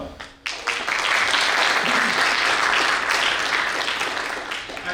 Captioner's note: audience applause